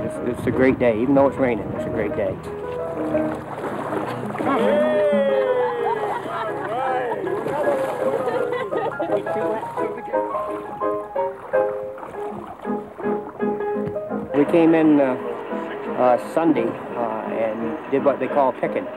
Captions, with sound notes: - It's a great day even though it's raining it's a great day. (group chattering) We came in Sunday and did wht they call picking the berry.